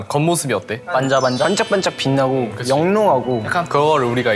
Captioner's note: sparkling